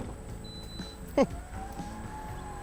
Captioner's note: scoffs; Geely Coolray beeps